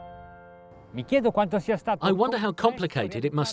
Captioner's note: speaking in foreign language